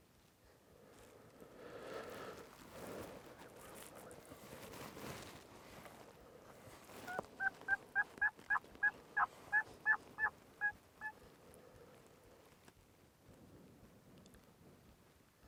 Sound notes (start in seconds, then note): 0.7 heavy breathing; 7.3 turkey calling